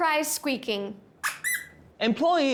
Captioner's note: dog toy squeaks